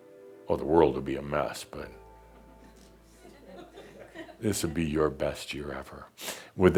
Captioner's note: a few chuckles; music fades out